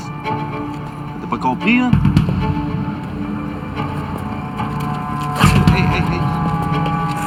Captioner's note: speaking in foreign language